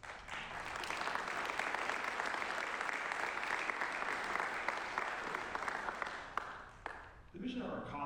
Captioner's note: applause